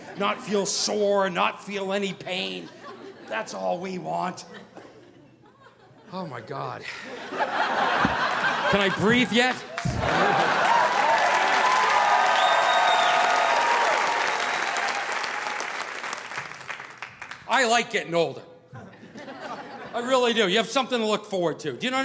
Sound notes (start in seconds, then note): 6.9 audience laughing; 10.7 audience applauding